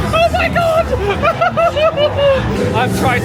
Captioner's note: laughs nervously